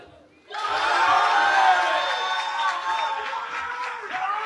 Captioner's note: cheering